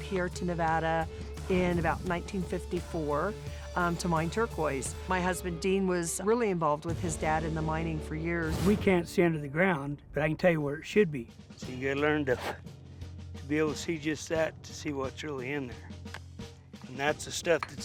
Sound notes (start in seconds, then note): 12.4 blows on rock